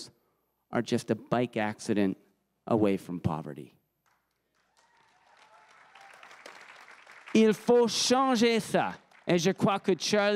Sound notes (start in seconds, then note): 4.4 crowd cheering and applauding